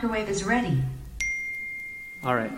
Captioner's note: text notification ding